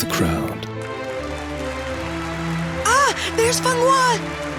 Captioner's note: audience applause